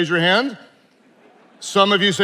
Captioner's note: attendees laughing